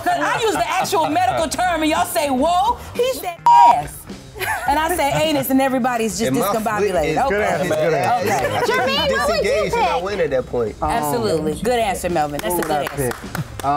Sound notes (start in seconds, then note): 3.4 beep; 12.3 clapping